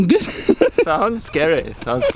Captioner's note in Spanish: la risa